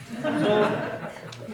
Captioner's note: laughter